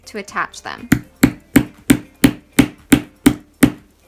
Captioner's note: heavy tapping